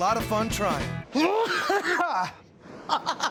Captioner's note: coughs hard; laughs